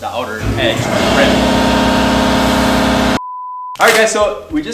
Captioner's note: air pumping rumbling